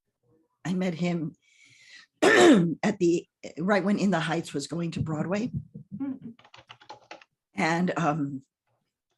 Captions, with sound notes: I met him (clears throats) right when "In the Heights" was going to Broadway. And